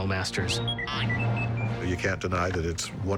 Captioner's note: r2d2 beeping